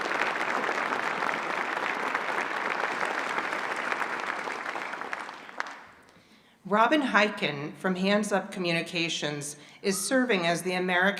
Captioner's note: applause